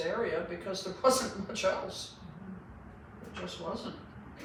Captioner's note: laughs